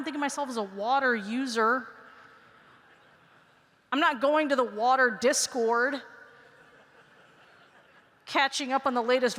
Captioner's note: laughter